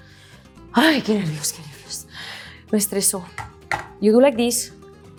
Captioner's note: speaks in Spanish